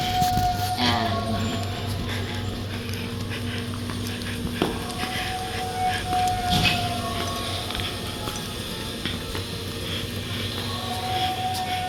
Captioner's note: howling, background noise